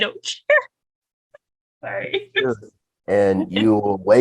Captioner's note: laughs